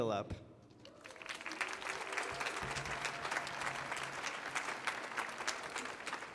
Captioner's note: audience applauding